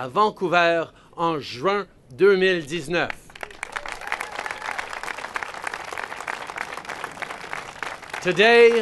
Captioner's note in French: Applaudissements